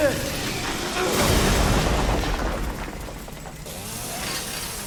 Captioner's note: wall crumbling